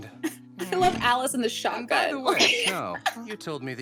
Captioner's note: laughs